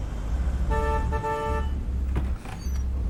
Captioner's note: horn honks